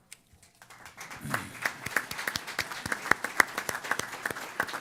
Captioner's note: applause